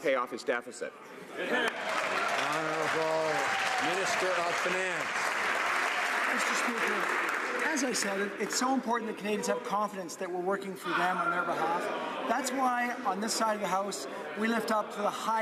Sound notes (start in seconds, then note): 5.4 some Applause